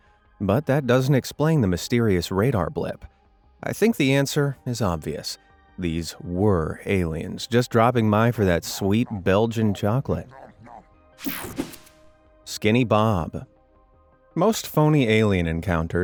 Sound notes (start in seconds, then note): 10.3 alien munching